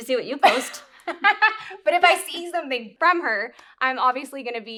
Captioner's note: laughs